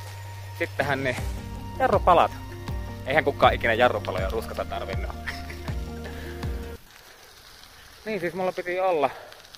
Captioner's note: laughter